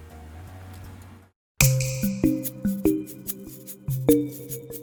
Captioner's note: tinkling